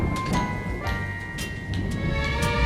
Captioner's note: thunder rumbling